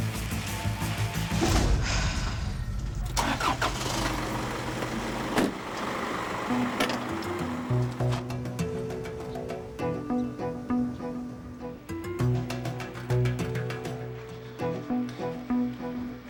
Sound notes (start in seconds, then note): 1.5 sighs; 7.0 ominous music